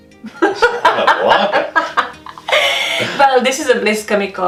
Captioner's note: laughing